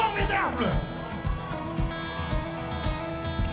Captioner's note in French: cris d'enthousiasme